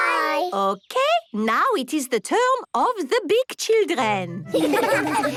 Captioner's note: laughter